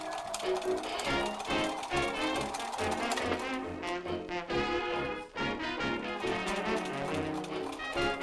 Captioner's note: machine whirring